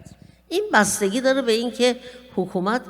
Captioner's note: speaking persian